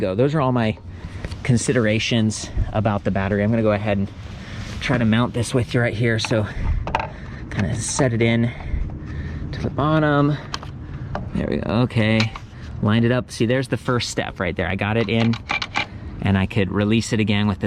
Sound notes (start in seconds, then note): none